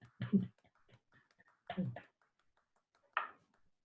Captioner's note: claps